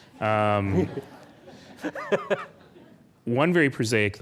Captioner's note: laughing